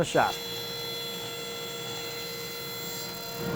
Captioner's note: sawing